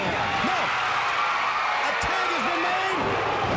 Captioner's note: crowd cheers